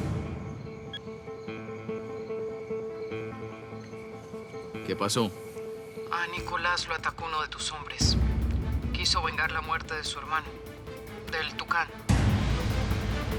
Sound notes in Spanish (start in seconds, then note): 0.8 Suena celular